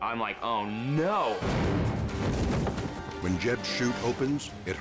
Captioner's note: parachute rumbles